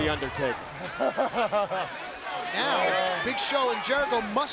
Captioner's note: laugh